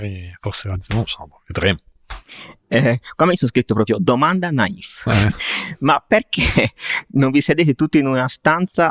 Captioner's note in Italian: risate